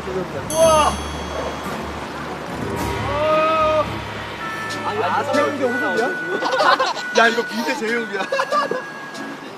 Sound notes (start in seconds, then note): 6.3 lauging